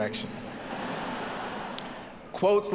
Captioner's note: audience laughing